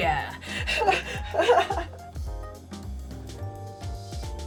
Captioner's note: laughs